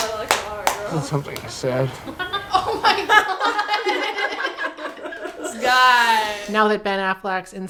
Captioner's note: everyone laughs